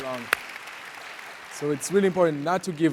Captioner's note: audience applauds